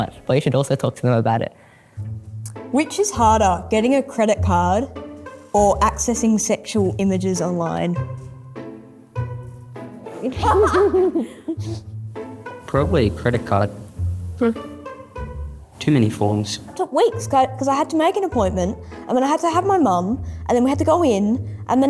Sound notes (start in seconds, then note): 10.3 students laughing